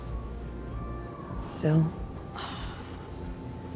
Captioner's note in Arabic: تنهدات سيل